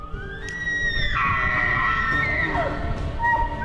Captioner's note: elk bugling